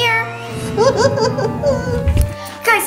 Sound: laughing

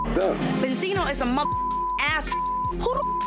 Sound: beep

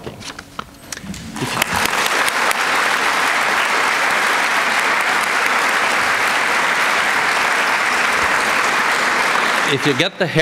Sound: applause

